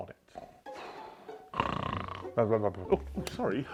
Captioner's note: snores loudly